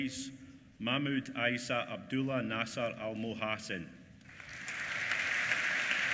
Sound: applause

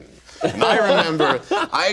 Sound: group laughing

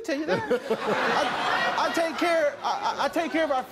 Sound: audience laughs

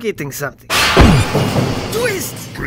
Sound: policeman thumps

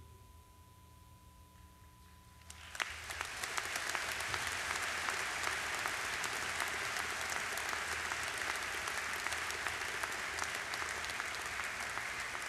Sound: applause

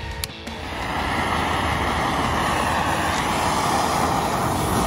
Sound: blow torch ignites

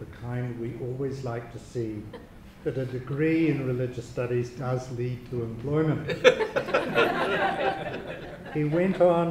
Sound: audience laughter

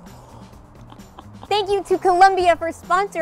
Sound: laughing

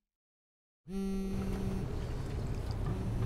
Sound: phone vibrates

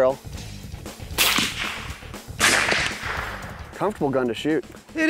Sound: gunshots

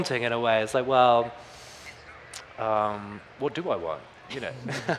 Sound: panelists chuckling; chuckles

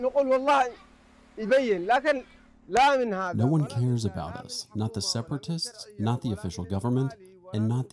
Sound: through translator

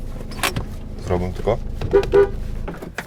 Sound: honks

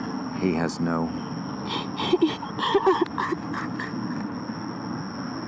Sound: crying

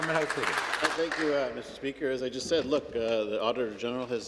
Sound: some Applause

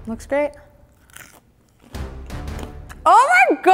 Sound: chewing loudly

